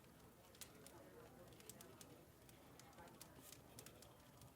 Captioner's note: fire crackling